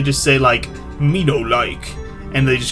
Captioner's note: caveman voice